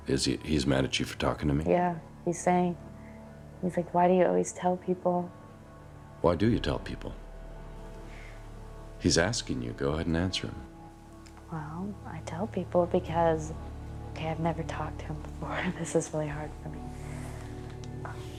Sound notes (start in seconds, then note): 14.9 chuckles